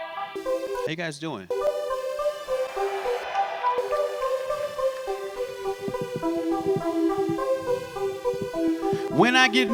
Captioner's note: applause